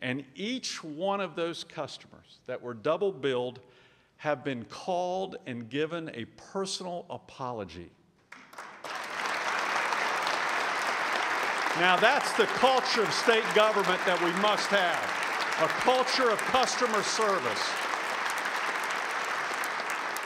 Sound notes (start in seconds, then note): 7.7 applause